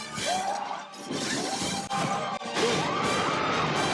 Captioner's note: man screams; mangler crashes; fire roars; people scream